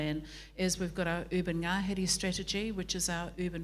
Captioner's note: foreign language